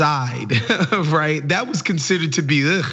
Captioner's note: laugh